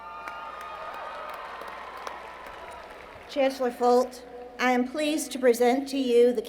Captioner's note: applause